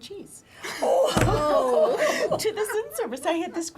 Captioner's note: laugher